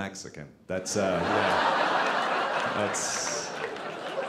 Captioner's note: audience laughing